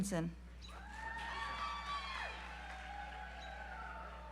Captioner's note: audience applauds